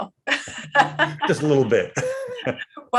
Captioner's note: laughs